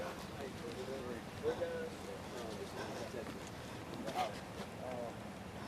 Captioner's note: indistinct chatter